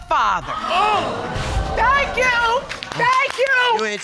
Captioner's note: audience exclaiming